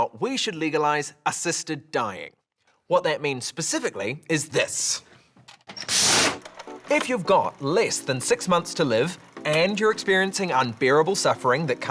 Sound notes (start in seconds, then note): 5.9 whooshing